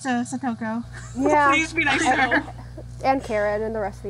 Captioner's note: laughs